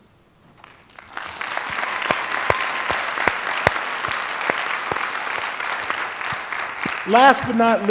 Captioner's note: applause